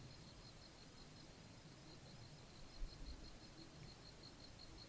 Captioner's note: insects chirping